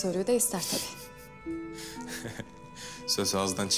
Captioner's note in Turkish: Gülme sesi